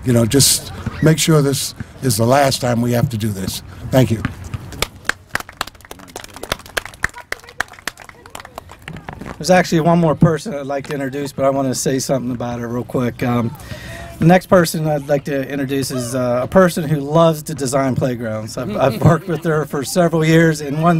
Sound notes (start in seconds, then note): 5.0 applause